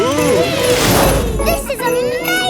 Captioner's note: all exclaiming